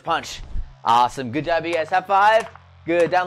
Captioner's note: cartoon clapping